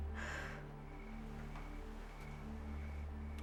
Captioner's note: sighing